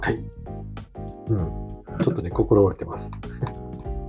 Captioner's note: laughs